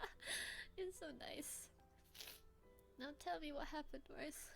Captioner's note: sniff